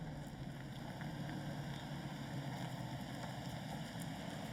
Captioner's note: engine rumbling